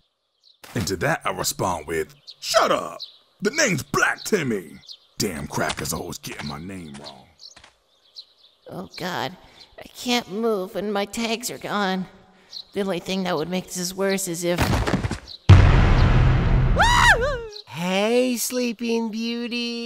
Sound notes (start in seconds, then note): 14.6 body drop